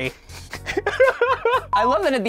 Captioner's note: laughter